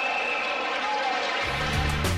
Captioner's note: crowd cheering